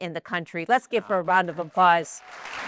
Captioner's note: applause